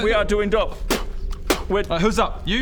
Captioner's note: spit